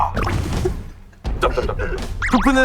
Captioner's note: the original writer can't stop laughing